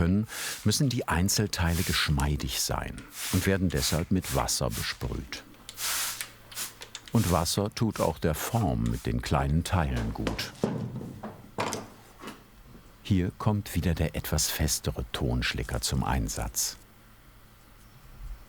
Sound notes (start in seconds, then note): 9.8 tapping, rattling